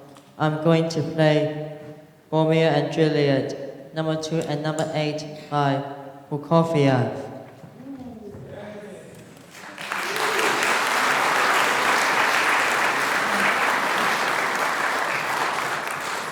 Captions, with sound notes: I'm going to play Romeo and Juliet, Number 2 and Number 8 by Prokofiev. [Applause]